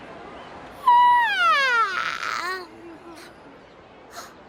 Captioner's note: yawn